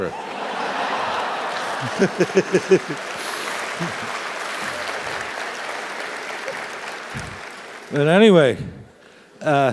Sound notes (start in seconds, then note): 0.1 laugh; 3.2 applause